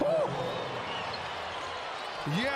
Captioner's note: cheers and applause; crowd noise